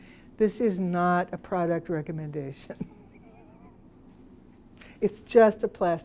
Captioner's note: laughs